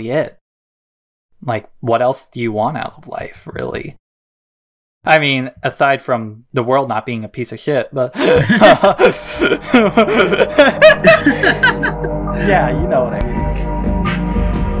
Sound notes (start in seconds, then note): 11.2 both laugh; 14.2 chill music